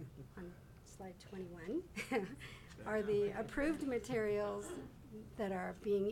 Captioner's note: man laughing; laughs